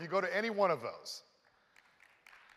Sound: applause

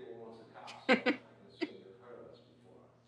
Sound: she snickers; she giggle

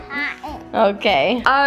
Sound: laughs

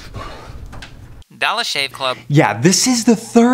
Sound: phone

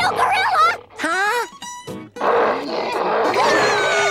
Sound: gasps; roaring; screaming

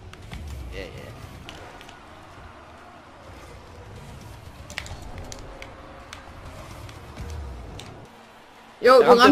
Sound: crowd screaming

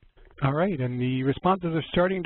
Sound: voiceover

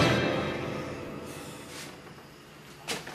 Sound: exhales

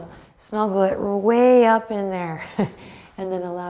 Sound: chuckles

